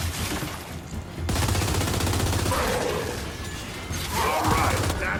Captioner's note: weapon firing